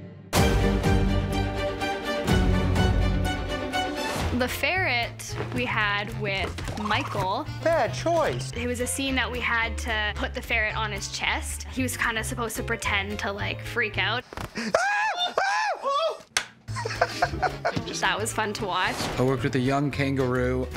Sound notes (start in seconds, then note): 14.5 laugh; 14.6 screams